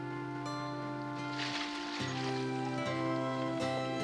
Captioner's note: water splashing